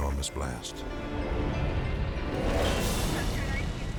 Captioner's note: fire whooshes